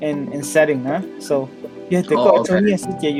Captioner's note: speaker uses foreign language